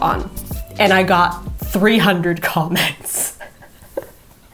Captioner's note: laughs